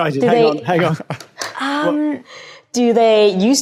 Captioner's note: chuckles softly